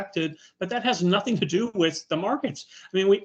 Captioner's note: chuckling